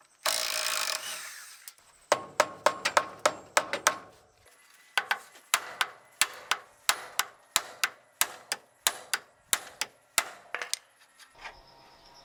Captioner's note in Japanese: 作業音